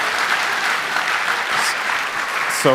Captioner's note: applause